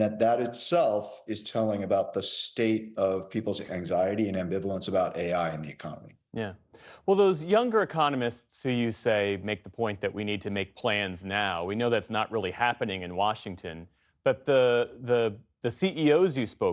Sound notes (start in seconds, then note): none